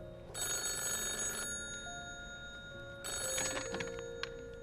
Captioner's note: phone continues ringing